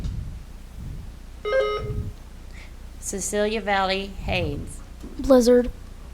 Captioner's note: buzzer beeps